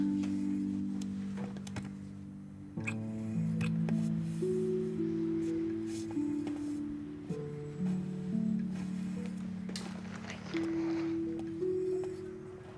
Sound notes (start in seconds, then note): 2.8 kisses